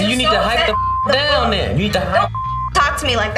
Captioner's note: beep